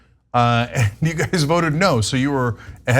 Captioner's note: laugh